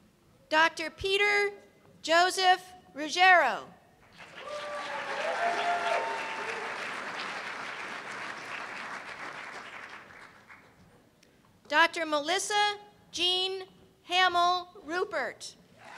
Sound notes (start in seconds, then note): 4.1 cheers and applause